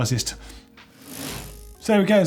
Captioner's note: whoosh